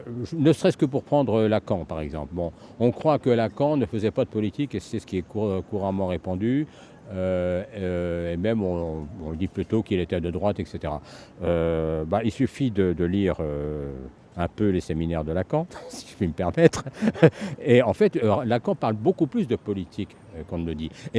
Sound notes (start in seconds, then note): 16.6 laughs